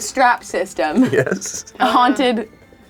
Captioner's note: laughs